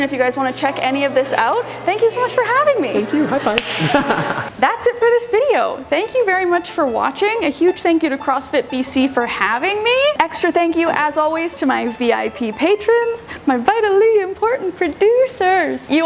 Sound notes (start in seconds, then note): 4.0 laughs